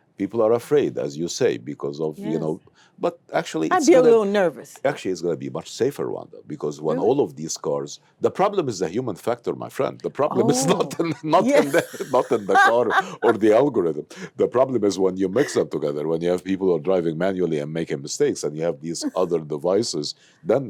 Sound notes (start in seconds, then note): 10.3 laughs